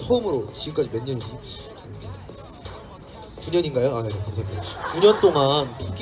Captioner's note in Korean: 웃음